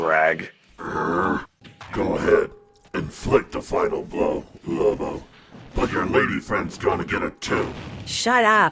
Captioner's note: growls